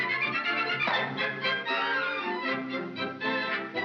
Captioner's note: pop; jovial music